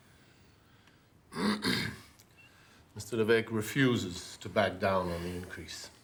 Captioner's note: Rene speaking in foreign language; clears throat